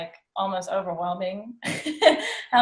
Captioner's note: laughs